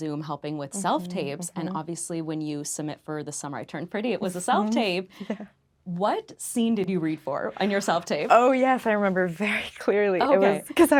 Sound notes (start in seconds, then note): 5.4 laughing